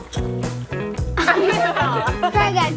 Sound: all laugh

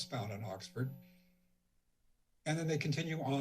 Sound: silence

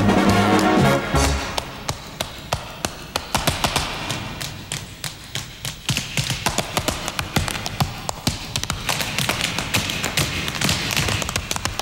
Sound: tap dancing

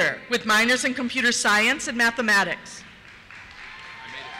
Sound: cheers; voiceover

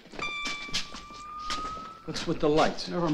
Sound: light tingling

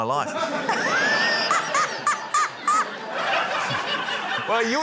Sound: laughter; laughs loudly

